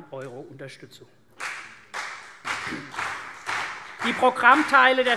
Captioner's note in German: Beifall CDU und BÜNDNIS 90/DIE GRÜNEN